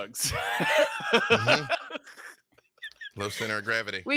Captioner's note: laughs